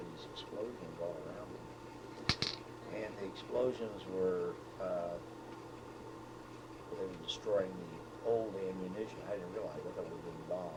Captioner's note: cracking sound